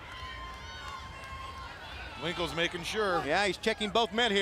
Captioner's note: crowd chatter